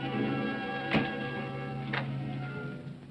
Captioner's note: ominous music; door closes